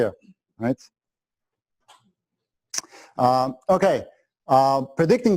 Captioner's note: pause